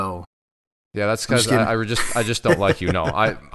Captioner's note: chuckles